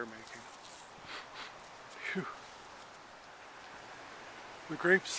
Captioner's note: sniff sniff